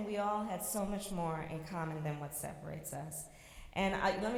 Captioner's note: none